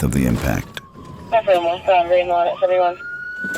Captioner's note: radio